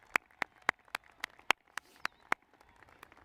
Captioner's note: applause